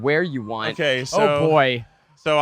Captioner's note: siren sounding